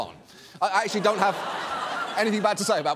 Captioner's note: audience laughs